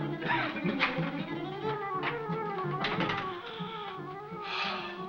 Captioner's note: McCroig coughs